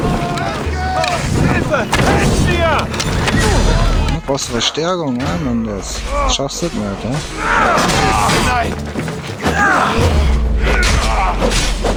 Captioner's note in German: stöhnen; schreien